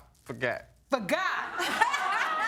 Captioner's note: all laughing